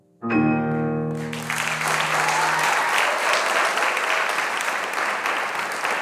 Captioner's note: audience applauding and cheering